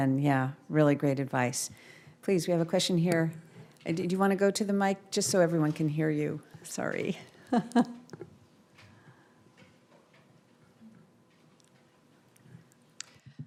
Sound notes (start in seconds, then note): 7.5 laughs